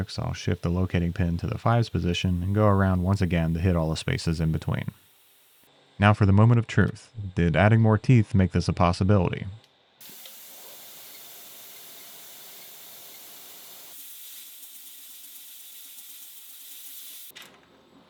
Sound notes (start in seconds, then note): 5.0 machinery whirring; 10.0 machinery whirring